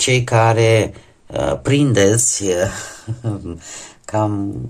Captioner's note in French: rires